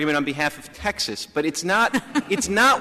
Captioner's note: laughter